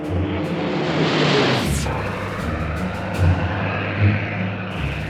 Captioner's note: dramatic music; jet engine roaring